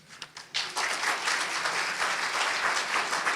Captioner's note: applause